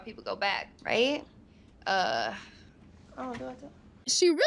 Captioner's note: mutters